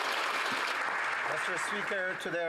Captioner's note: some Applause